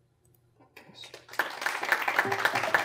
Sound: applause

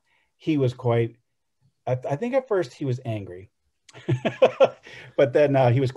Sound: laughs

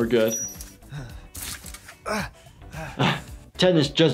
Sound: man groaning

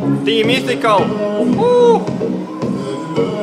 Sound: whooooo

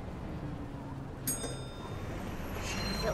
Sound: bell rings

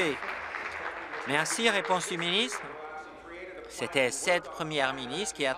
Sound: applause

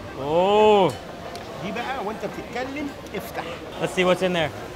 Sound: speaking in foreign language

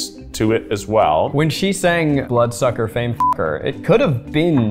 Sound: beeps

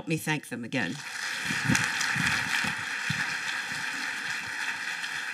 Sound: applause

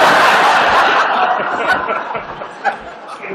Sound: laughter

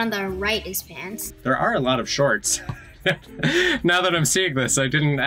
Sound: laughs

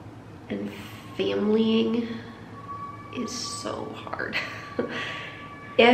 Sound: chuckles

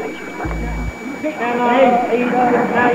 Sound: whispering; auctioneer chanting

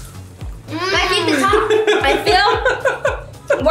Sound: laughing

